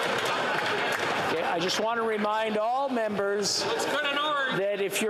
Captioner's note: yelling; laughter